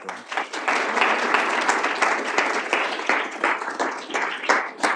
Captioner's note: applause